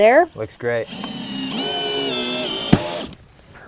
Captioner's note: drilling